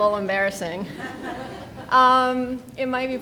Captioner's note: people laughing